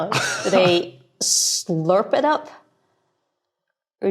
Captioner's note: blurts chuckle